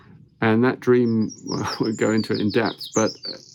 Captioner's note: chuckles